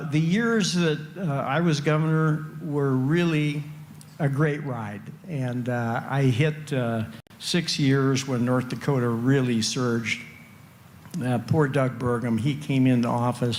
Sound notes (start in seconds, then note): none